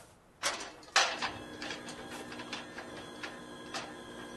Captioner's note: whirring